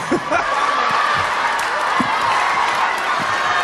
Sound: chuckles

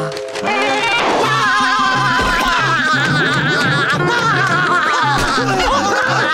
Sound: laughing; screaming

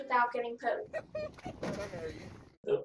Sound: laughs loudly

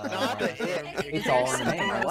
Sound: laughing

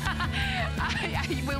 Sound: laughter

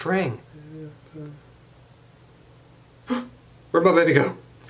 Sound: humming; gasps

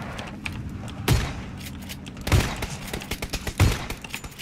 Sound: gunshots

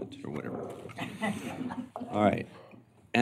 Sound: laughter

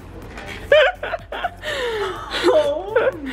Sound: laughs

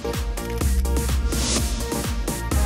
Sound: cameras clicking

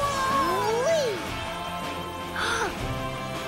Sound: excited noises; gasp

